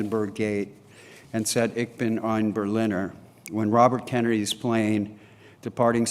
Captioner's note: german speech